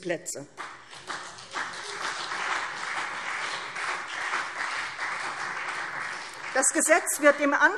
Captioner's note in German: Beifall CDU und BÜNDNIS 90/DIE GRÜNEN